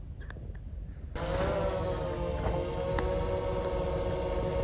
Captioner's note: device whirling